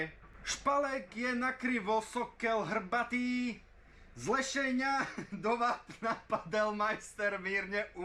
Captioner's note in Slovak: smiech